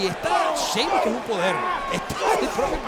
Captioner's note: laugh